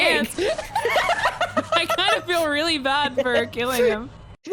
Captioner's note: both laugh